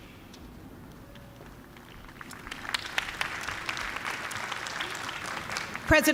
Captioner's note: applause